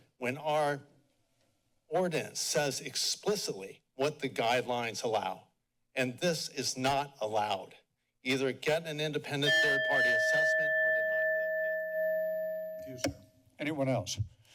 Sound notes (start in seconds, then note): 9.4 bell rings